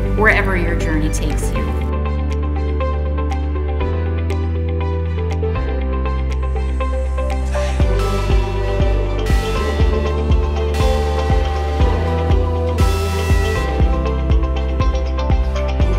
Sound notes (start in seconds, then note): 1.7 upbeat music continues; 7.9 bell ringing